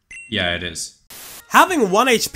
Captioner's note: static